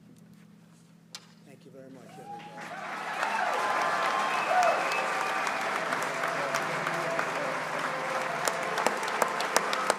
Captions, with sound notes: Thank you very much, everybody. (applause)